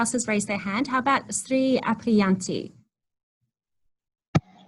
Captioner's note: speaking in foreign language